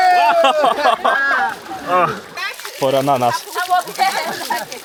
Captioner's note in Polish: laughs